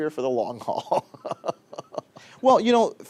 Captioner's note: laughs